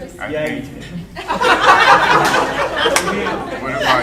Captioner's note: audience laughing; laughing drowns out speaker